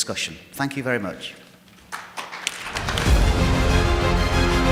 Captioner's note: audience applauding; dramatic music